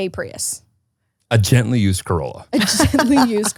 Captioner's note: laughs